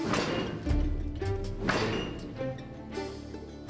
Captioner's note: loom clanking